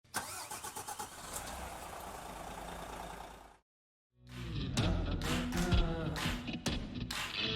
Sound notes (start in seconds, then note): 1.4 bus engine rumbling; 4.2 uptempo music